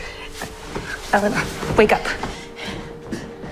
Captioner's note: voiceover